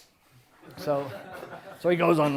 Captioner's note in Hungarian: Nevetés